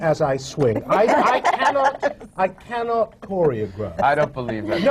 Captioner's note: laughter